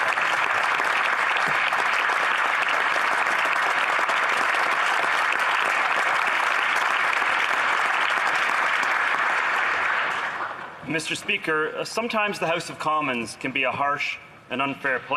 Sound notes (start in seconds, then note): 2.9 applause